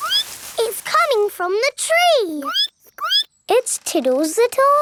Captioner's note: squeak; squeaking